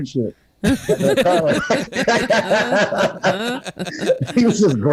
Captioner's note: everyone Laughs